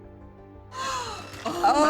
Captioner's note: gasps